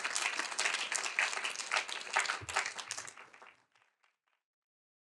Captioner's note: audience applauding continues